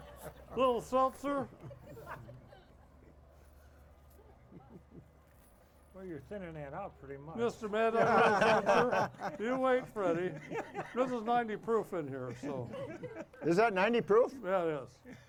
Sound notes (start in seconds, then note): 1.4 audience laughing; 7.8 laughing; 9.9 hosts laughing; 12.2 laughs